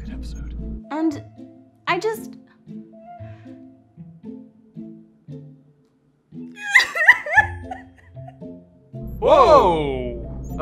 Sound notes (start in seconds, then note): 6.5 wife sobbing